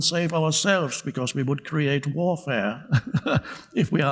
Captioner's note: chuckles